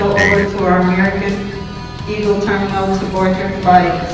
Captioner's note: public Announcement